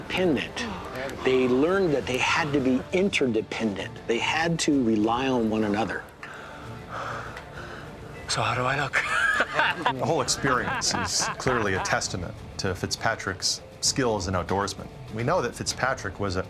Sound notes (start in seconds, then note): 6.9 panting; 8.8 laughing